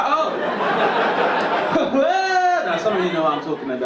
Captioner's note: audience laughing